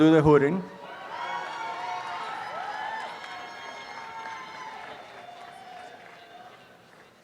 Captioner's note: applause and cheering